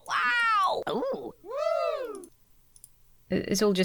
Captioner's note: audience cheers